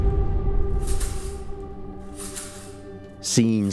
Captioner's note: rattling sounds